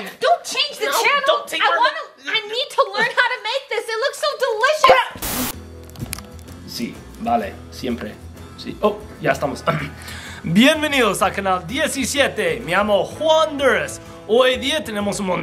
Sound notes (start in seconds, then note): 6.9 speaking Spanish